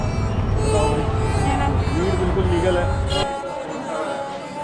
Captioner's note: street and crowd noise